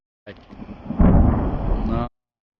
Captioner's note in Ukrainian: вибух